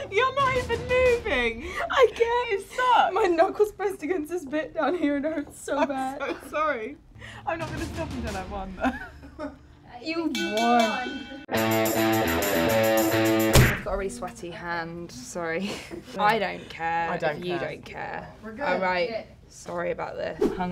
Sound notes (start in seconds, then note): 10.3 bell rings; 11.4 dramatic music